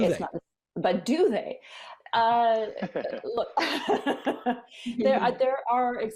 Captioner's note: laughter